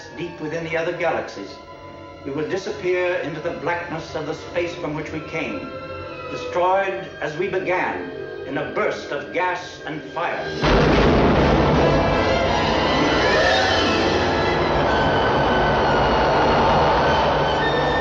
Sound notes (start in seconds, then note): 10.6 blasts; 12.9 sinister music